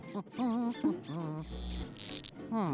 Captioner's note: rat squeaking; buzzing